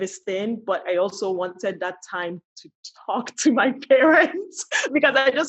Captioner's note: laughs